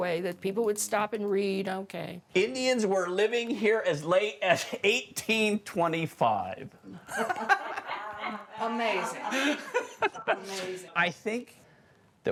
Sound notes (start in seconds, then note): 7.0 others laughing; 10.0 Vincent laughing